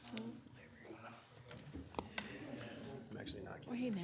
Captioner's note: people murmuring